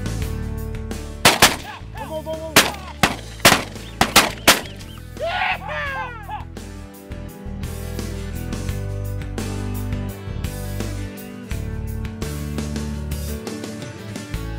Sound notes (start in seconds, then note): 1.2 guns firing; 5.2 cheering